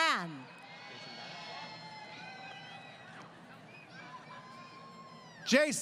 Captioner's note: crowd Cheering